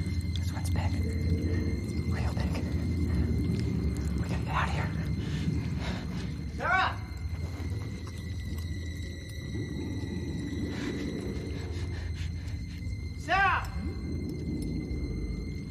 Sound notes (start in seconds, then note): 0.2 whispering; 10.6 nervous panting